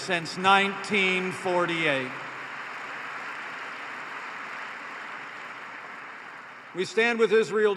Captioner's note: applause